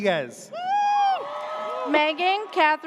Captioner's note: audience cheers